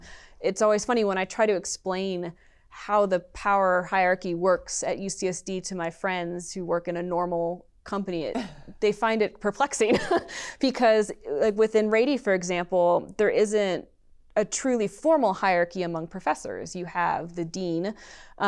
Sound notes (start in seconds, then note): 9.9 laughter